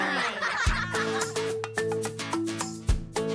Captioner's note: laugh